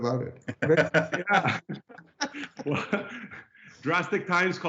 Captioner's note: laughing